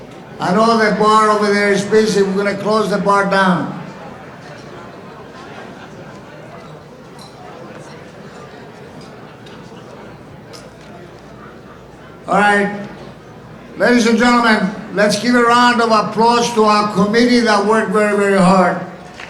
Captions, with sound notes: I know the bar over there is busy. We're gonna close the bar down. (audience chattering) All right, ladies and gentlemen, let's give a round of applause to our committee that worked very, very hard.